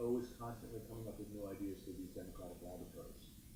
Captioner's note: speaks faintly